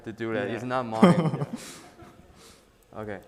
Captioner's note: laughing